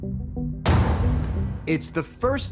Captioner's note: gunshot